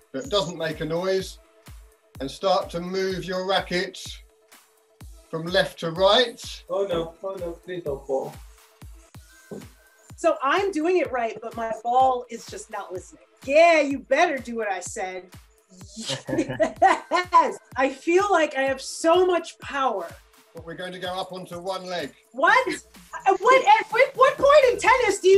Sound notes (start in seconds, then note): 16.0 laughs